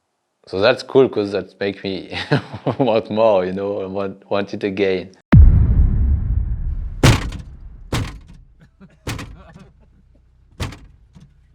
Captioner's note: laughs